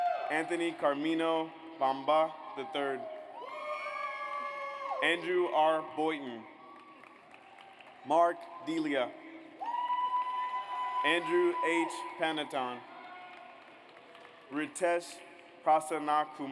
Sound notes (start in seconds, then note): 0.0 audience cheers; 3.6 audience cheers; 7.2 audience applauds; 9.8 audience cheers; 13.4 audience applauds